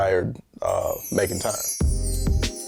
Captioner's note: wind chimes